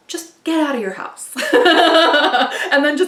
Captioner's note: laughing